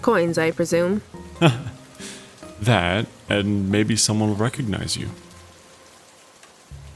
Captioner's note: laughs